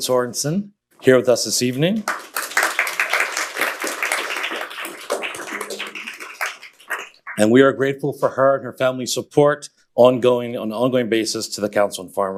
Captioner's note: applause